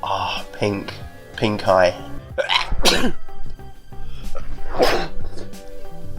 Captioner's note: sneezing